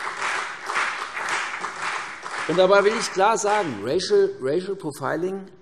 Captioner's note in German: Beifall CDU, BÜNDNIS 90/DIE GRÜNEN und vereinzelt Freie Demokraten